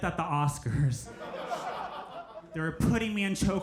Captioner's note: crowd laughs